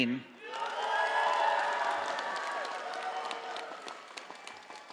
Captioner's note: audience applauding